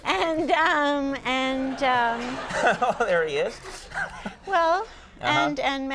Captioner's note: crowd laughing